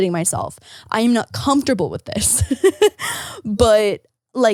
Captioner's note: laughing